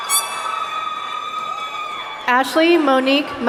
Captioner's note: horn honking